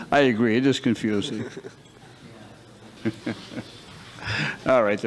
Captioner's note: chuckles